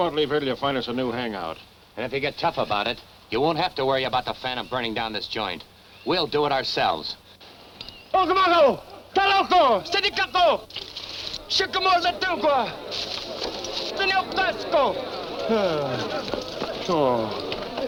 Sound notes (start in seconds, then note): 7.8 foreign language; 10.9 tribe murmuring; 13.8 foreign language